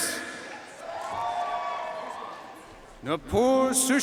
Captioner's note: audience cheering and applauding